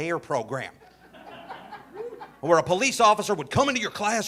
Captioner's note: audience laughing